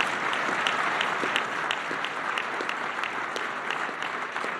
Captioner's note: applause